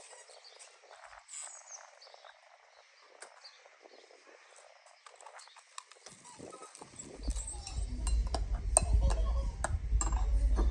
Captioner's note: dog barks